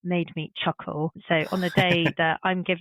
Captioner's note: chuckles